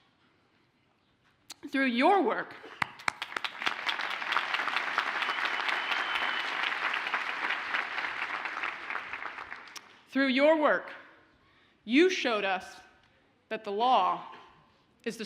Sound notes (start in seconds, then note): 2.8 audience applauds